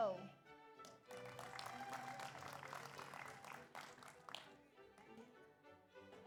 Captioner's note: audience applauds; audience cheers